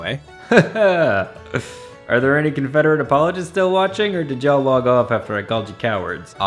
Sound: nervous laughter

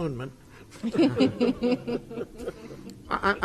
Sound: group laughs

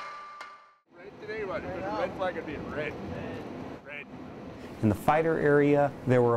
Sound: chatter

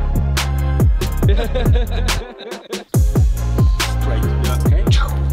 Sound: laughs

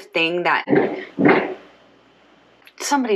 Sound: thudding

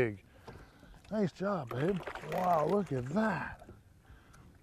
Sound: splashing

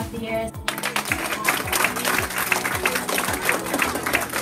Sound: group applauds

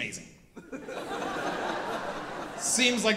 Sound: audience laughing

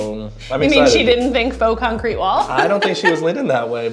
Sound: laughs

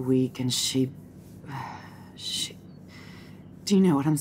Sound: sighs

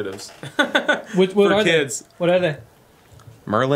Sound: laughs

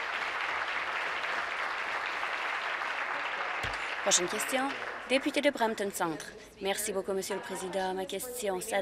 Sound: applause

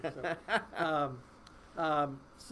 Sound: laughing

